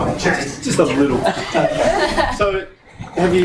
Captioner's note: voiceover